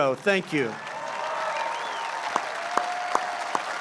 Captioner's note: applause